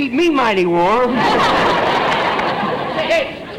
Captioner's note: audience laughter